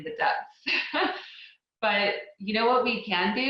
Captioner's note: laughs